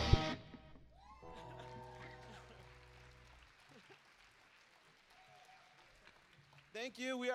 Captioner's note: applause